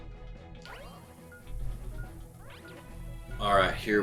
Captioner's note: energetic music; bomb ticking